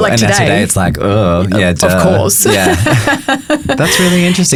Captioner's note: chuckling